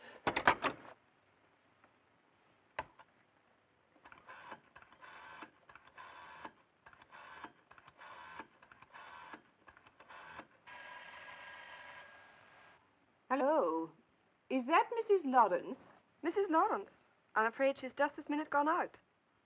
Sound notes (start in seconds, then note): 0.2 phone clatters into receiver; 4.0 rotary dial clicking; 10.6 phone ringing